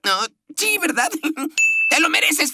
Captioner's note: nervous giggle